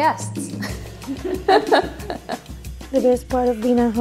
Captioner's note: upbeat music; laughing